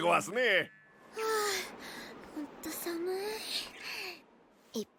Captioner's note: sigh